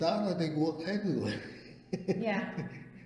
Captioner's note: laughs